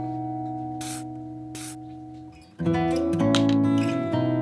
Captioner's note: pen scratching